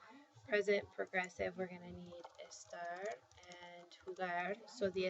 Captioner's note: spanish